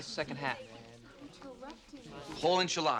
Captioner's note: class chattering